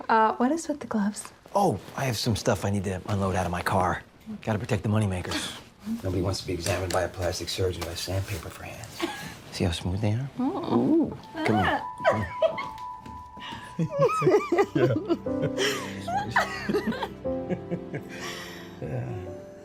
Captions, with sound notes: - What is with the gloves? - Oh, I have some stuff I need to unload out of my car. Got to protect the moneymakers. Nobody wants to be examined by a plastic surgeon with sandpaper for hands. (Jackie chuckles) You see how smooth they are? Come on. (both laughing) (soft music)